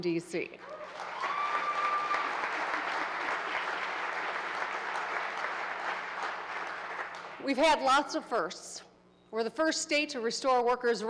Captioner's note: applause